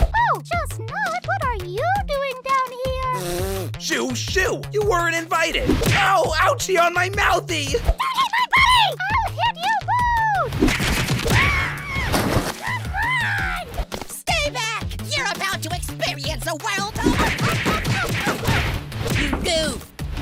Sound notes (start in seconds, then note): 3.1 blows raspberry; 11.3 Bomby screams